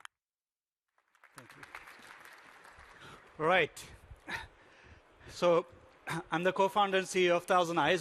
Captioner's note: applause